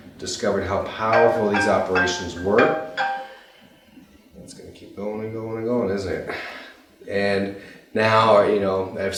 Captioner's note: phone ringing